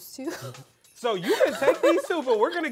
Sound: laughs

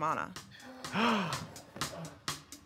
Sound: gasps; tense drum music

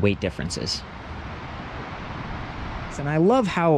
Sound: air whooshing

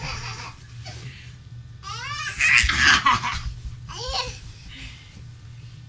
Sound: giggles; giggles

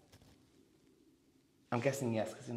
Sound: haunting Silence

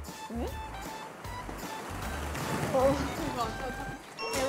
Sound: waddle waddle

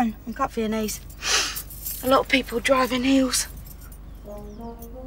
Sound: sniffs

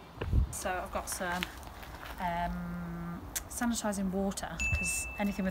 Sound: checkbox Ding

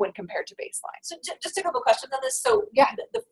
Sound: voiceover

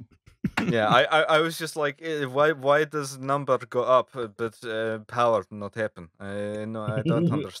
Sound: bad Russian accent

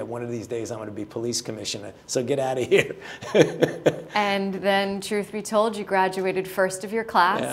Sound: laughter

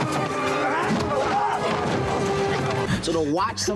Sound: legs thud

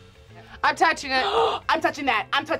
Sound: gasps

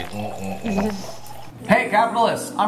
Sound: laughing

